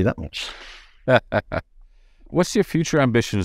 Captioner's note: laughing